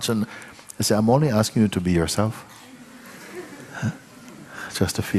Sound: laughter

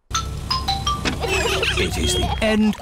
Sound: trumpets; horns honking

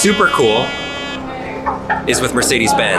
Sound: scanner buzzes

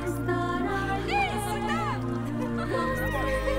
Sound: laughter, girls’ shouting

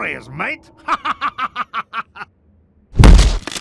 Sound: laughing in France

